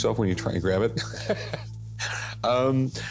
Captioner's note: laughs